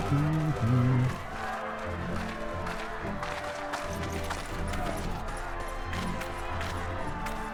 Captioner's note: applause